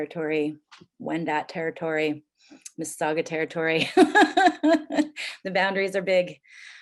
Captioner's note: laughs